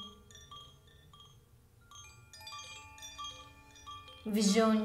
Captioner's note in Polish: dźwięk dzwonków